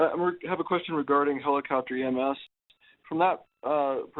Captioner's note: voiceover